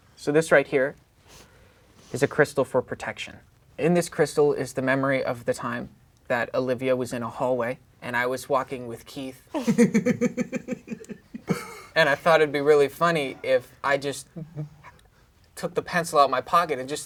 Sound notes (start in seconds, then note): 9.5 laughing